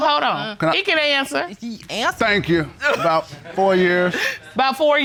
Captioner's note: audience laughing